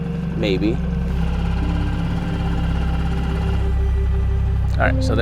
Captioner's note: boat whirring